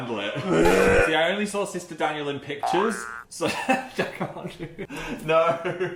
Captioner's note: laughing